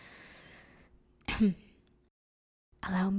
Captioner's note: clears throat